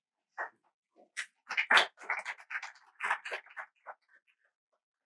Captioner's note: applause